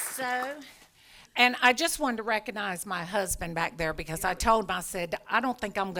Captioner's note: applause